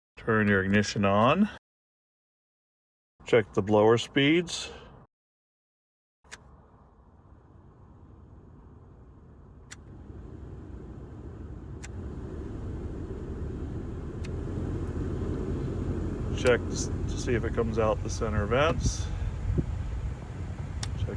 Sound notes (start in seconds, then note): 7.2 low blower sound; 10.2 #2 blower sound; 12.3 #3 blower sound; 15.0 high blower sound